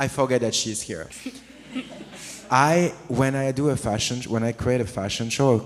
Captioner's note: audience laughs